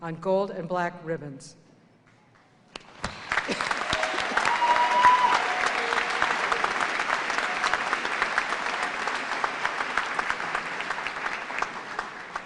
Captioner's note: cheers and applause